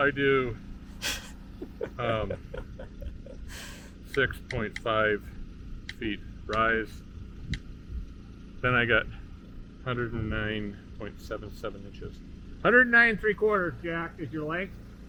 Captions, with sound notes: - So I do (host laughs) 6.5 feet rise. (buttons clicking) Then I got 109.77 inches. - 109 3/4, Jack, is your length.